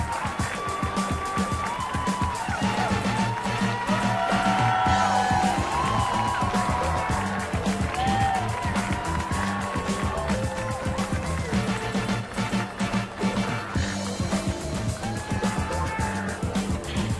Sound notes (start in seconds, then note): 2.8 upbeat music; 6.1 audience cheering; 11.8 upbeat music